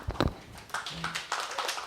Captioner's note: applause